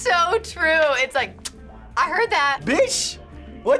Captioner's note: clicks tongue